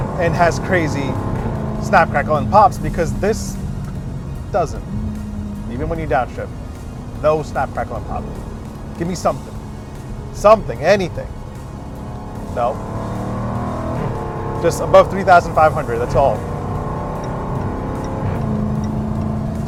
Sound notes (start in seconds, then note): 13.5 engine roars